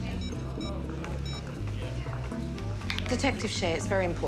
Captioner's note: cell phone beeping